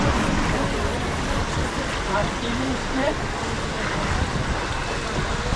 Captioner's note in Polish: odgłos wody